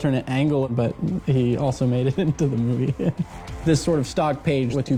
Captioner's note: chuckles